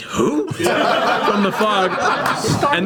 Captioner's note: all laugh